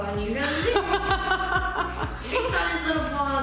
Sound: laughter

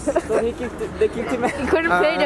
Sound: laughs

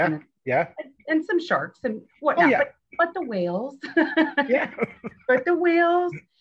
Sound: chuckles

